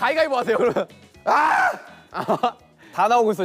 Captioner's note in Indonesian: Argh!